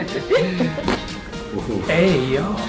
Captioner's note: people laughing; neck popping